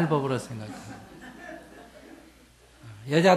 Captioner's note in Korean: 청중 웃음